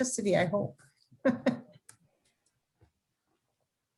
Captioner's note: chuckles